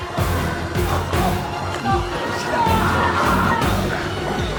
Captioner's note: intense music continues; biker whimpering